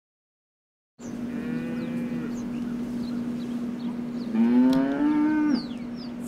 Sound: cows Mooing

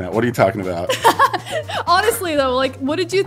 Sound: laughs

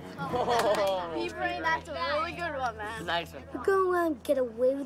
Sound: laughter

